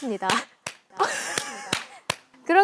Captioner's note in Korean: 고냥 깔깔